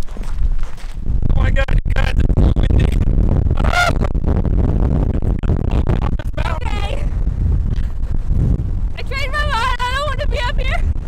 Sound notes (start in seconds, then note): 1.1 strong wind overpowering voice